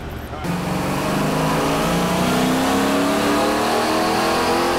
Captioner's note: engine revving